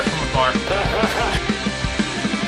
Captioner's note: laughter